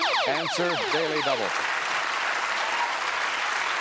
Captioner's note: applause